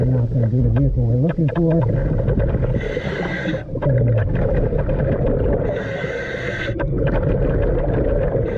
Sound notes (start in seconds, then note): 2.2 water bubbling; 2.6 mouthpiece hissing